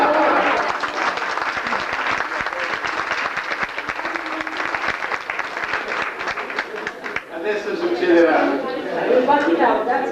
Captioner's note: applause